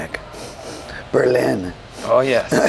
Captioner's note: sniffing